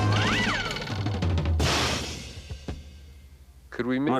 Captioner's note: thudding